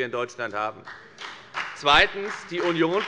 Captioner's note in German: Beifall bei der FDP